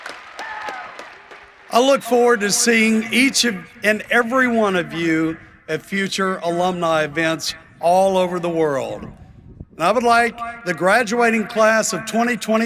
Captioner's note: applause